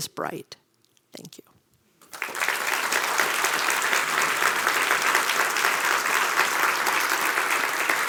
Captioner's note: applause